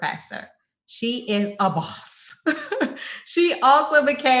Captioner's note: laughs